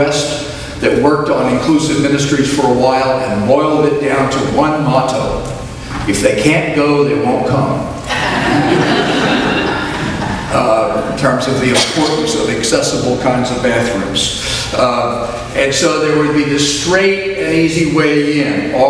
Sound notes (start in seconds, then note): 8.0 audience laughs